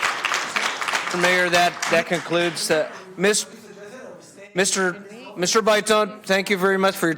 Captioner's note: applause